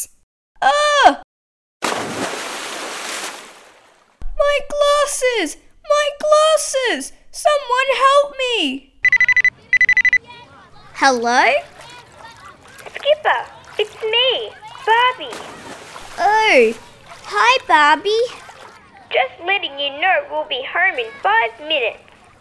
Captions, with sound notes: Ahhh! (Splash) My glasses! My glasses! Someone help me... (Phone rings) Hello? Skipper, it's me! Barbie Oh Hi Barbie Just letting you know we'll be home in five minutes